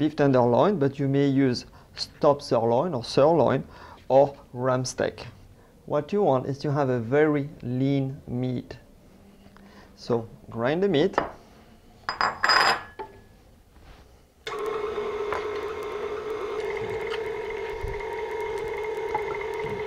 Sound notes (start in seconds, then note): 14.5 grinding sounds